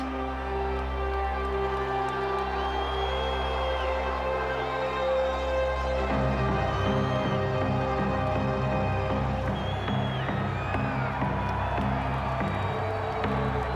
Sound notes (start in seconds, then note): 0.5 crowd cheering; 2.9 crowd chatter